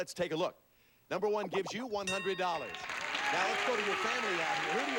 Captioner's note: audience applauding